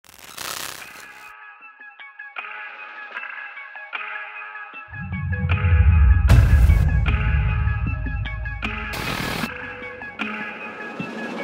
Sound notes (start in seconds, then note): 0.1 static tones; 0.5 eerie music